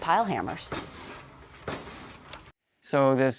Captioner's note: steam-pile hammer has a slow driving vibration